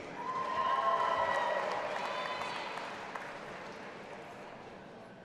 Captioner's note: audience applauding and cheering